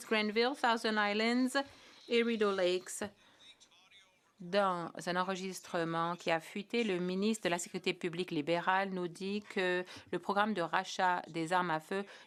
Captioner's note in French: voix de l'interprète